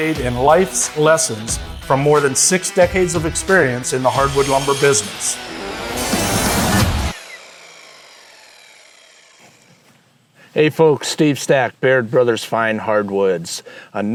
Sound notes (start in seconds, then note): 5.2 saw buzzes; 5.2 upbeat rock music